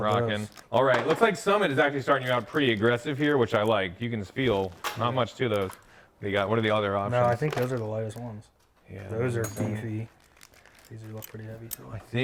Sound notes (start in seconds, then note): 9.3 metal clinking